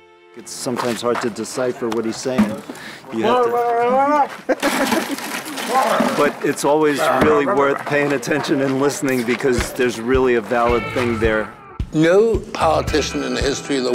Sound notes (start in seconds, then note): 3.9 laughs; 4.5 ice chest and ice noise